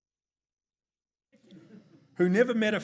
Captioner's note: audience chuckles